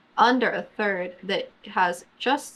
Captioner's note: none